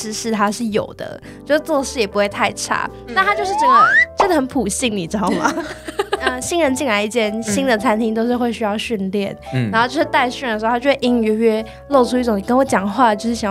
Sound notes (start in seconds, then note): 5.4 machine gun laughter XD